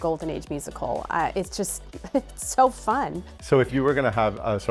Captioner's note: chuckles